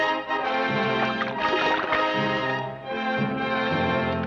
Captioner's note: water splashes